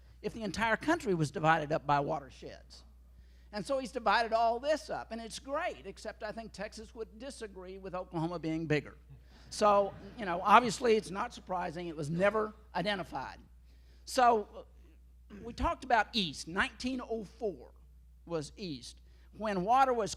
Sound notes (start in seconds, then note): 9.9 laughter